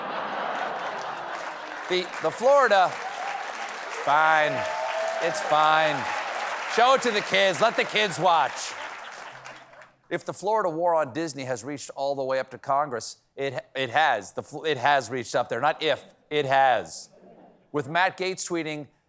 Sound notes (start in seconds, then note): 0.9 applause